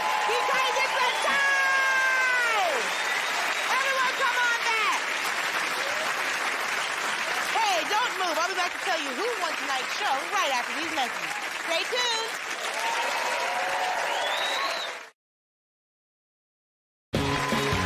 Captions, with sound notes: because it's a tie! Everyone, come on back. [ Cheers and applause ] Hey, don't move. I'll be back to tell you who won tonight's show right after these messages. Stay tuned.